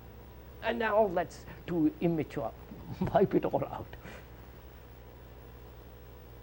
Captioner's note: laughs